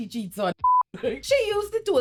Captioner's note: beep